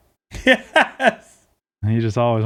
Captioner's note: laughing